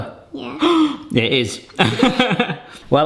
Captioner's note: gasps